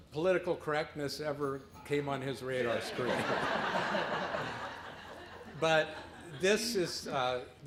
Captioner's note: laughter